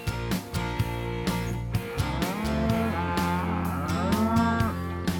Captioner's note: cow moos